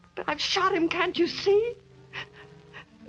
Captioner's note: sobs